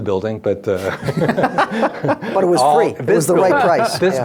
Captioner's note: laughing